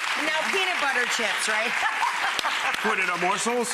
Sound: audience clapping; laughs

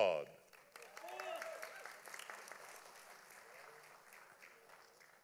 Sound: audience applauding

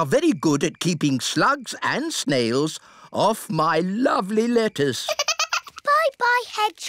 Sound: giggles

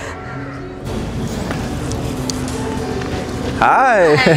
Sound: both laughing

